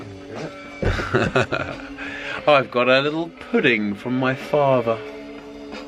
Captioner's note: laughs